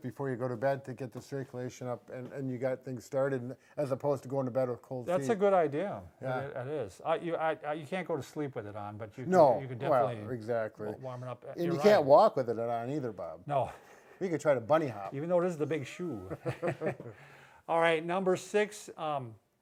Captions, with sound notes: before you go to bed to get the circulation up and you got things started, as opposed to going to bed with cold feet. - That's a good idea. Yeah, it is. You can't go to sleep with it on, but you can definitely warm it up, you're right. - And you can't walk with it on either, Bob. - No. (laughing) - You could try to bunny hop. - Even though it is the big shoe. (both laughing) All right. Number six.